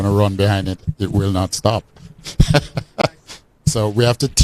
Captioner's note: laughs